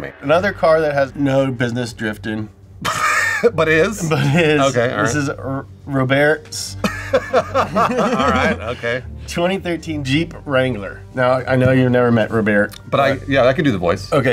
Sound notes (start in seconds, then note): 2.8 laughs; 6.8 laughs